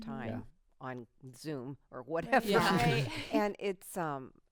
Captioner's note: laughs